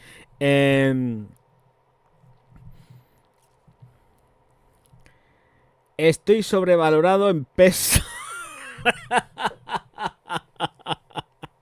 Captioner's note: laughs